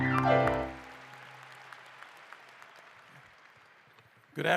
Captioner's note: applause